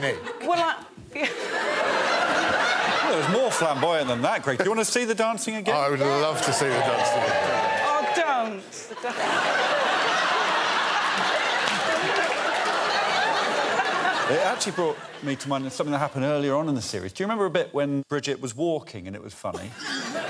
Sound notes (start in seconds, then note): 10.7 laughter